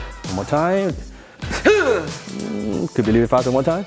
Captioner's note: exhales